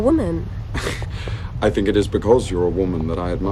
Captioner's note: laughs